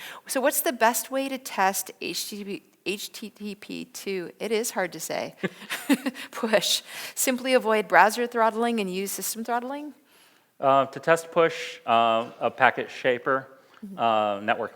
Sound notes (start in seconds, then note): 5.4 laughs